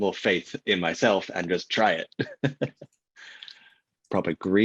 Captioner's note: laughs